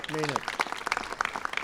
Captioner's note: applause